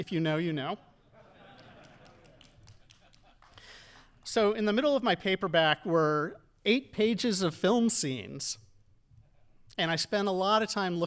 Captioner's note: audience laughing